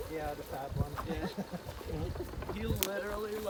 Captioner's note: laughs